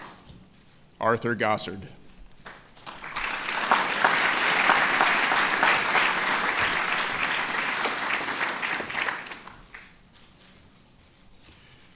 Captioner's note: applause